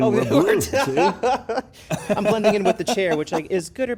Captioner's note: both laugh